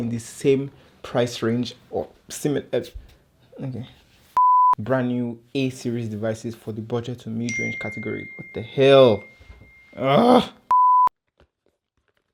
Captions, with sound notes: the same price range or similar..... brand-new a series devices for the budget and mid-range category *PING* wth